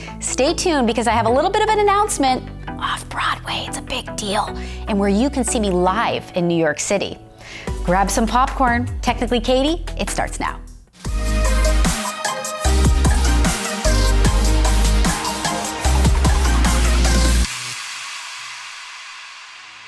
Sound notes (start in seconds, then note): 2.7 whispers; 11.0 upbeat music